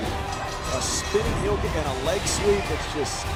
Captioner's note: bell ringing